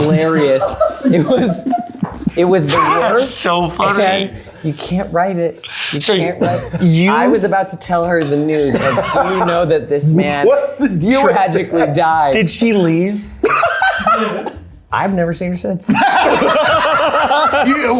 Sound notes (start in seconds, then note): 12.6 laughing; 15.9 everyone laughing